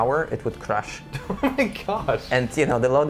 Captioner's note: laughing